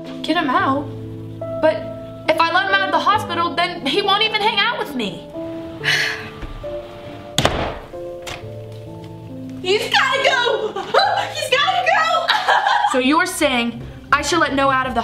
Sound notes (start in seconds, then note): 5.8 sighing; 6.1 door shutting